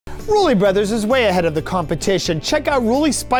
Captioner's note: male Voice